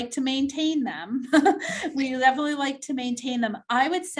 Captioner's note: chuckles